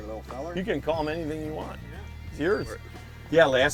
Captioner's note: voiceover